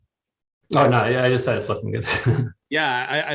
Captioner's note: chuckles